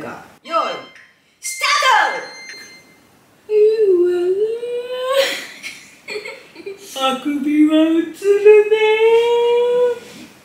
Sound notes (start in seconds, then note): 3.5 yawning